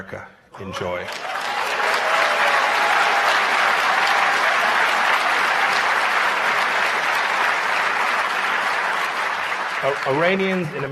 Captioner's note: cheers and applause